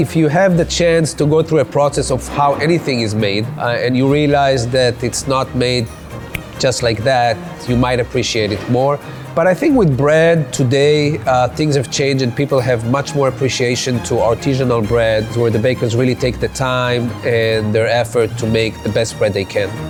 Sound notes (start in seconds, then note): 6.1 snaps